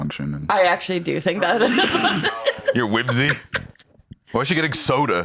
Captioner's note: laughs